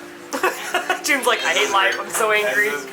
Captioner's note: laughing